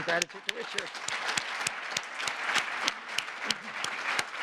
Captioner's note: applause